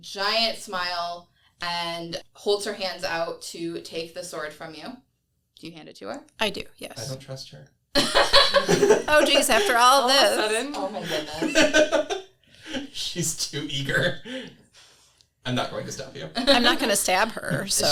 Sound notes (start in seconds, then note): 8.0 laughs